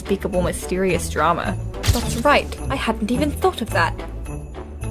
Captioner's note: camera flash